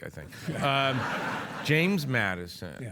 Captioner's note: audience laugh